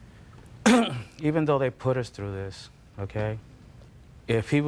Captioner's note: coughs